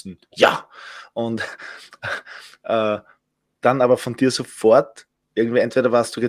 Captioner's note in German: lacht